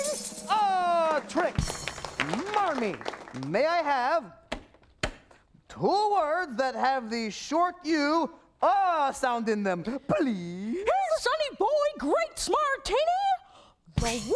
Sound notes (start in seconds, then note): 0.8 applause